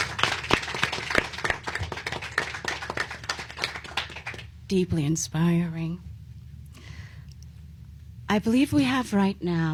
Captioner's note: applause